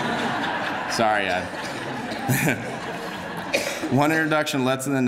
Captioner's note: laughter